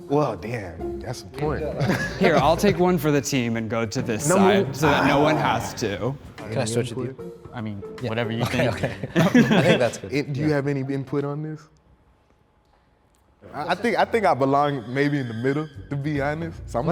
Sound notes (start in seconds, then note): 8.4 laughs